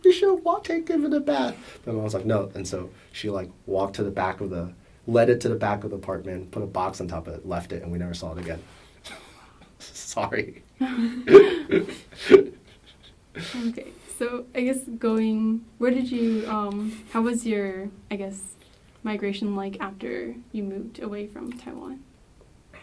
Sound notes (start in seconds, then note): 10.8 laughs; 10.9 all laugh